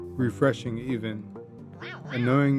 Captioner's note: happy rascal noises